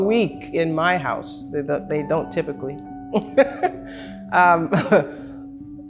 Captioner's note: laughs